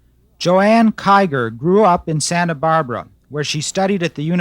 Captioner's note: voiceover